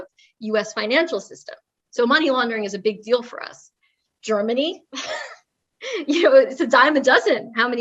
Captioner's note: laugh